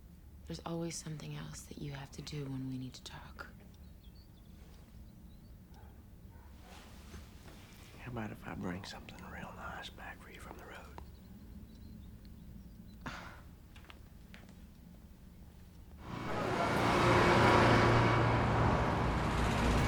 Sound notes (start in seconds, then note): 12.9 scoffs